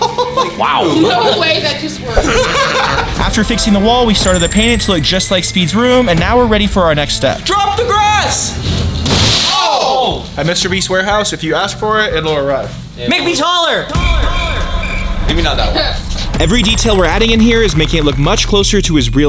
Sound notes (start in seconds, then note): 2.2 laughter; 7.7 crash